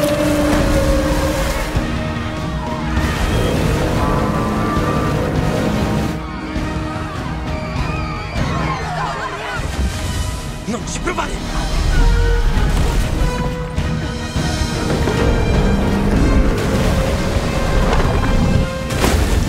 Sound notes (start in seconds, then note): 6.7 crowd screaming